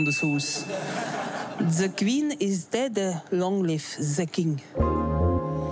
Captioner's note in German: Mit französischem Akzent